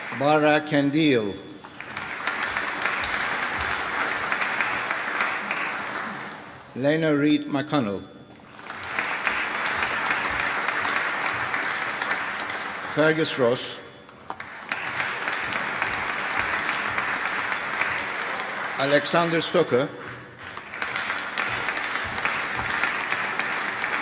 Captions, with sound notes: Baraa S A Qandeel. (APPLAUSE) Lana Reid-McConnell. (APPLAUSE) Fergus Ross. (APPLAUSE) Alexander Stocker. (APPLAUSE)